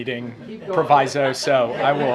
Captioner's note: laughter